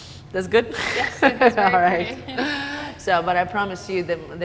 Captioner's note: laughs